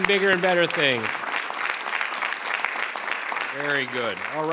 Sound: crowd clapping

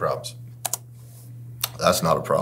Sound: computer mouse clicks

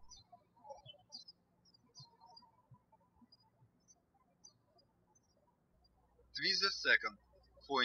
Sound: birds chirping

